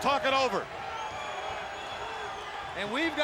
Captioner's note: crowd clamoring